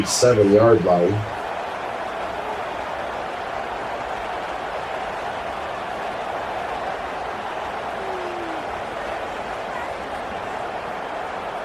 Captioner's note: crowd Noises